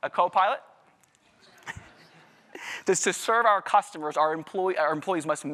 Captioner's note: laugher